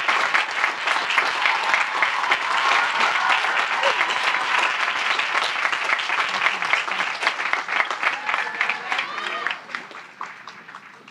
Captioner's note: applause; cheering; applause